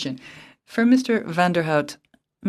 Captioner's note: speaking French